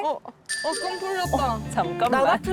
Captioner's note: sending a signal sound effect